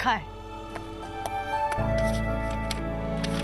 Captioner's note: pages ruffling